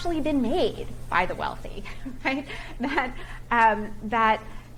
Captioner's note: chuckles